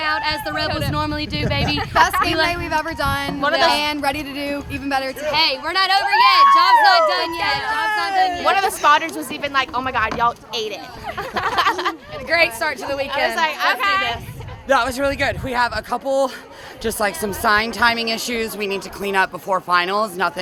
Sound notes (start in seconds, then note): 10.9 laughing